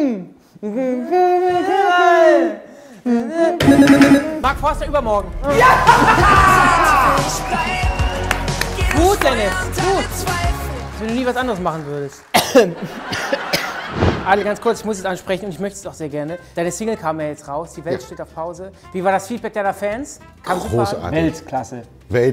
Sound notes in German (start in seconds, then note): 5.5 jubelt; 12.3 Er hustet